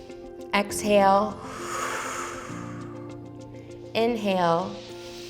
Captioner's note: inhales; exhales; inhales